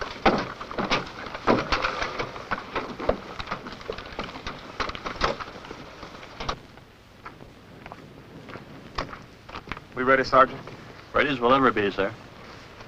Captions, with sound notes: [footsteps] [footsteps] - We ready sergeant? - Ready as we'll ever be sir.